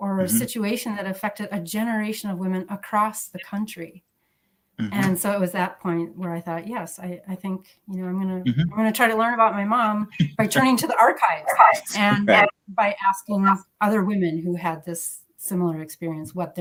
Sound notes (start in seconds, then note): 10.1 laughs